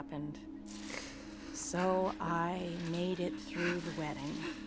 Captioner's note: sniffling